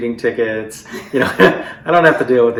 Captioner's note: laughter